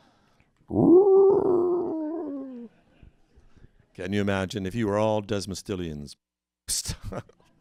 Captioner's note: animal call